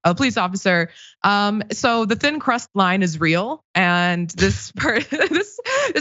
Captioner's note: laugh